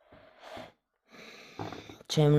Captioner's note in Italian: sospiri